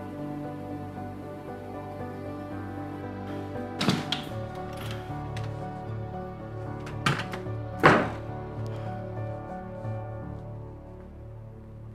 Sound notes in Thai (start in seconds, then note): 3.7 เสียงเปิดประตู; 6.8 เสียงปิดประตู